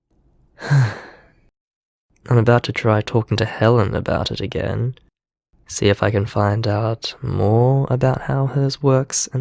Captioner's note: sigh